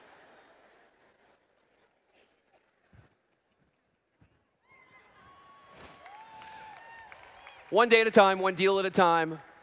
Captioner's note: applause